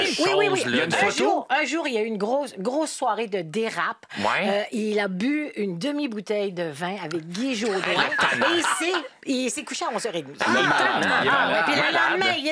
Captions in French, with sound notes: - Bien oui, regardez. Il y a une photo. - Oui. Un jour, il a eu une grosse soirée de dérape. Il a bu une demi-bouteille de vin avec Guy Jodoin (rire) et il s'est couché à 11 h 30. - Il est tannant!